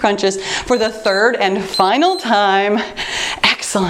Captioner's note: timer beeps